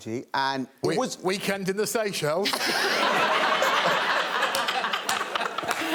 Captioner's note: all laughing